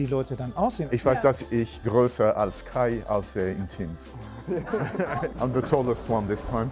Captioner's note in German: lacht